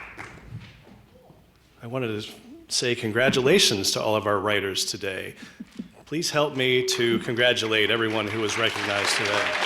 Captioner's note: applause